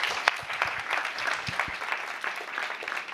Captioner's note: applause